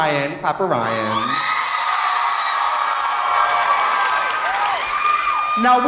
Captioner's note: audience cheering; audience applauding